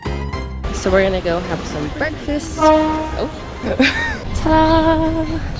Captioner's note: boat horn